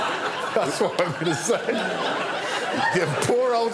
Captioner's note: laughter